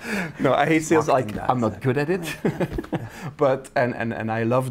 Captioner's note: laughs